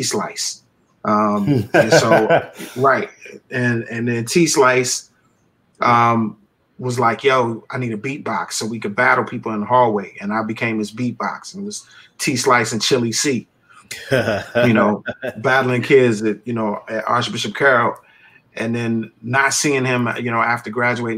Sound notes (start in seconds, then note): 1.4 laughter; 14.8 laughter